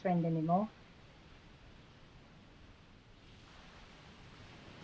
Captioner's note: waves crashing